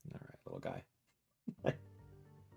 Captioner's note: laughs